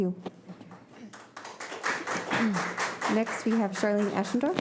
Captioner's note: audience applauding